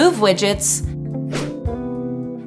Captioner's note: screen whooshing